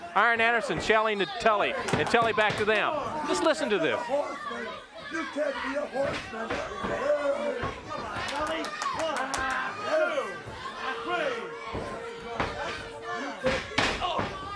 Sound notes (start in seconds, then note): 1.8 hands clapping; 8.0 hands clapping; 9.4 body thudding; 10.4 blows thudding